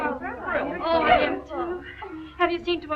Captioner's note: excited chatter